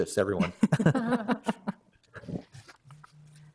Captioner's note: laugh